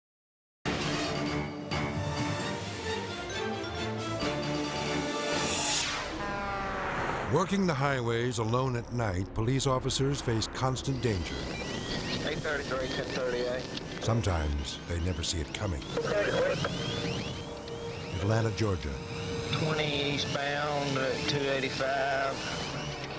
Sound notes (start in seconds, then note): 0.2 dramatic music; 5.3 horn blares; 5.4 air whooshes